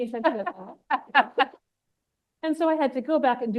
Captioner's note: laughs